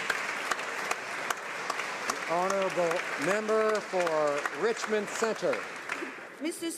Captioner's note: some Applause